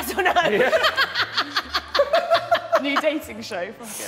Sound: woman 2 laughing

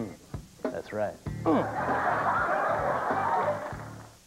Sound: audience laughs

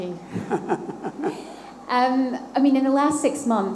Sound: laughter

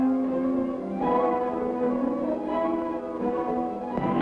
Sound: firing sound

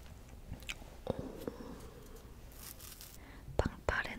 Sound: ohhhh

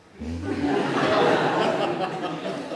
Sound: laughter

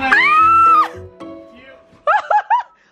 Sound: screams

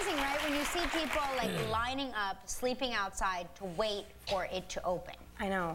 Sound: applause

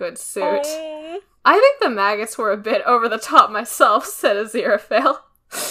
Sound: laughs

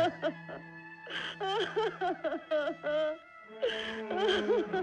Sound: crying

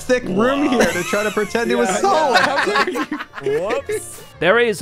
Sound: crowd heckling

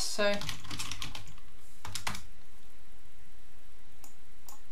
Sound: keyboard clicking

